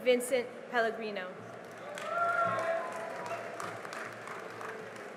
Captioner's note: cheering and applause